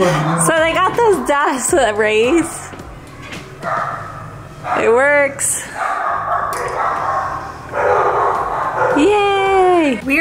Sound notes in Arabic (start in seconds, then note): 5.6 كلاب تنبح